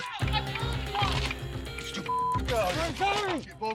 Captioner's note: beep